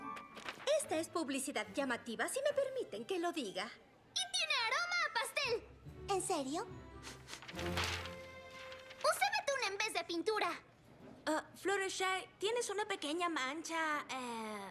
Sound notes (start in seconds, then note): 7.0 sniff sniff